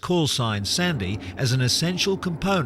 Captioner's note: plane flying